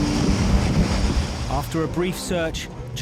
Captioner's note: boat engine revving